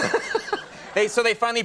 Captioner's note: laughing